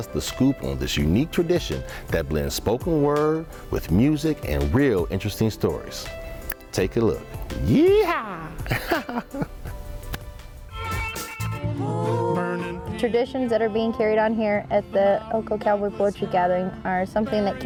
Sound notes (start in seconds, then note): 8.6 laughter; 10.3 theme music